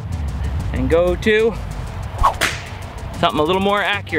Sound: slingshot fires

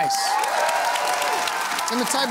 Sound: cheering and applause

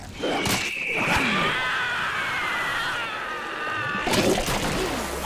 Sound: screaming

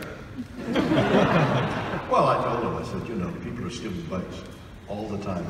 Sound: audience laughing

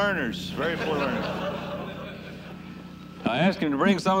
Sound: laughter

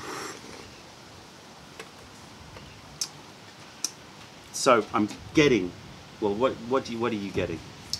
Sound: sips tea

